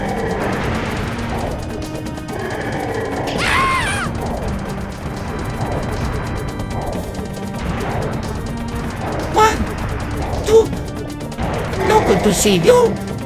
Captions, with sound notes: (Mario screams) One! Two! No good to see you!